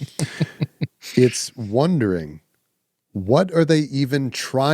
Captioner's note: laughing